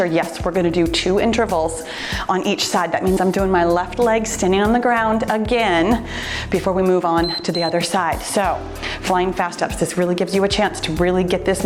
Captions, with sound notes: yes, we're going to do two intervals on each side. That means I'm doing my left leg, standing on the ground again, before we move on to the other side. (timer beeps) So flying fast ups, this really gives you a chance